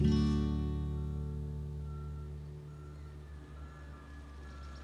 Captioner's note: gentle music ends; car beeping